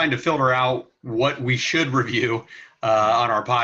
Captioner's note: chuckling